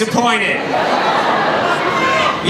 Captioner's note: laughing